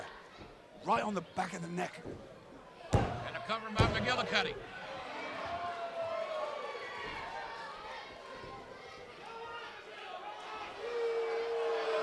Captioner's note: crowd chatter